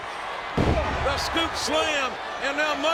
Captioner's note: body thuds